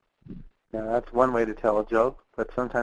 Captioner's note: voiceover